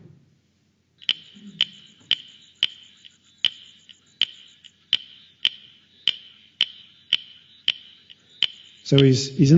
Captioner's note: sound of frog call